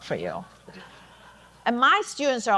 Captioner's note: audience laughing